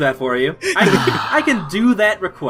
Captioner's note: sighs